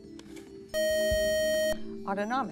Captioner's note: buzzer